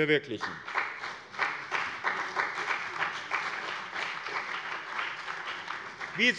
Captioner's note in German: Beifall bei dem BÜNDNIS 90/DIE GRÜNEN und der CDU